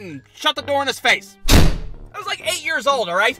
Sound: thud!

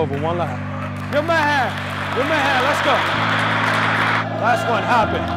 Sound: applause

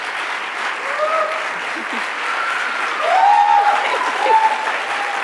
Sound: audience cheering and applauding; laughs

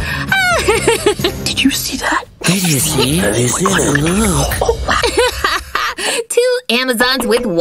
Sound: whispers

